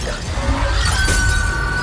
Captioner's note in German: grelles schreien